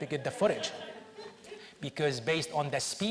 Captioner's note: audience laughs